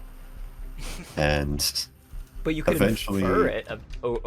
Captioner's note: chuckles